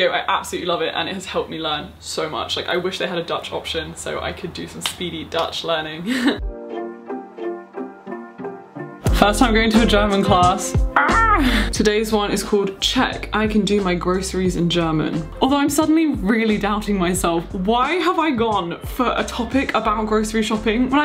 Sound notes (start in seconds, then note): 6.1 chuckling; 6.6 soft music